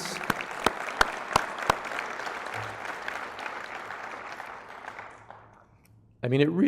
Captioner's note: applause